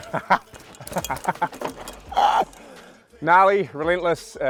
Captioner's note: laughing